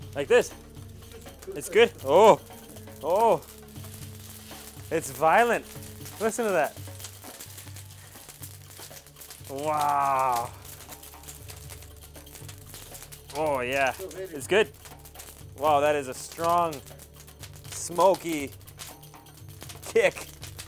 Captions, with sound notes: Like this, it's good? (flames crackling) Oh it's violent, listen to that. Wow oh yeah, it's good? Wow that is a strong, smokey tick.